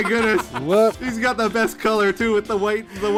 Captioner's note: triumphant laughter